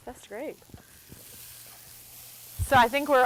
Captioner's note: food sizzling